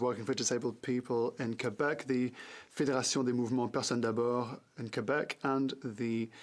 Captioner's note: french